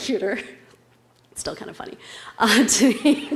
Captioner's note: laugh